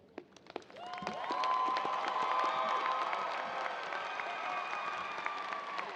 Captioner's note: audience cheering and applauding